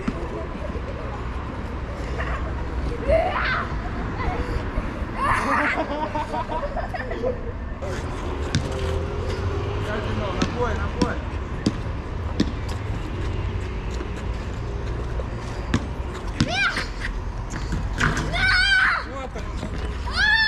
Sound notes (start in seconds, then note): 5.1 laughs